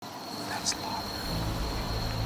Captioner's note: whispering